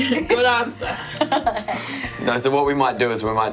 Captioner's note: laughs